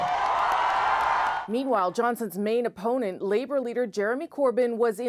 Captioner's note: cheers and Applause